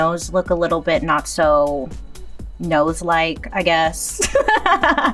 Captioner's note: laughs